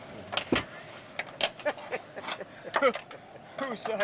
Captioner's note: laughs